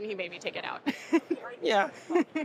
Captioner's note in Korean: 웃음